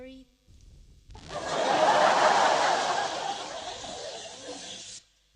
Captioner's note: laughter